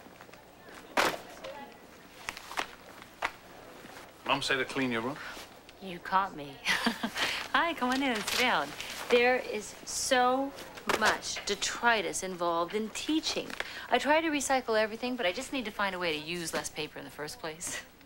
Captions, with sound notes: MOM SAY TO CLEAN YOUR ROOM? YOU CAUGHT ME. [LAUGHS] HI. COME ON IN AND SIT DOWN. THERE IS SO MUCH DETRITUS INVOLVED IN TEACHING. I TRY TO RECYCLE EVERYTHING, BUT I JUST NEED TO FIND A WAY TO USE LESS PAPER